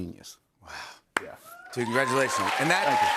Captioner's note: cheers and applause